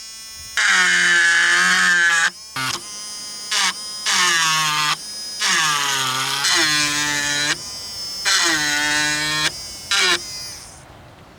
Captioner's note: loud buzzing